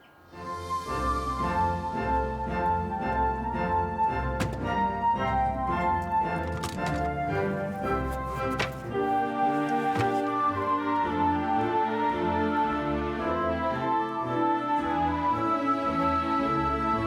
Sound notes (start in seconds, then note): 0.2 cheerful music; 4.1 items clatter; 6.6 cheerful music